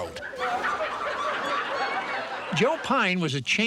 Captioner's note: audience laughing